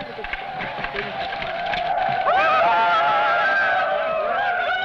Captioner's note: men shouting; tribal war shouting